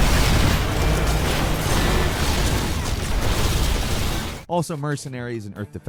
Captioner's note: building exploding